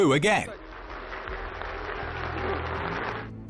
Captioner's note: applause